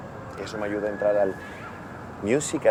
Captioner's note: sirens